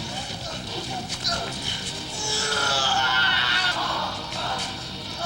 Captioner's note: rebel screaming; rebel groaning